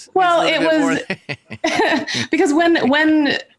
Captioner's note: chuckles